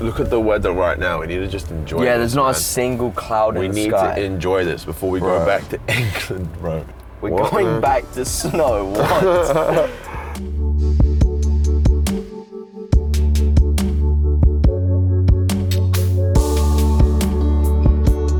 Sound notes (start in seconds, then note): 10.0 Kay laughs; 11.7 soft electronic music